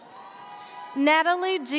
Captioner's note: audience cheers